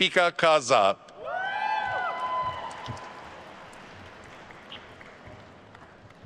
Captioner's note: attendees cheering and applauding